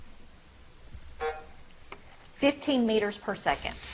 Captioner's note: buzzer drones